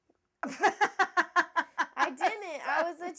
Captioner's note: laughing